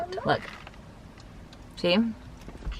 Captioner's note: crunch